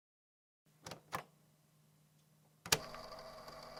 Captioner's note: click